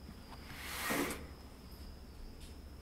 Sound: window opening

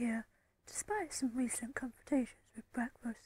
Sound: reading the text aloud

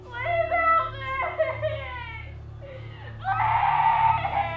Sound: crying

